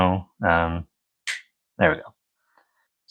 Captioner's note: finger snap